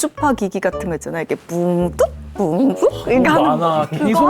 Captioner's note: high-frequency sounds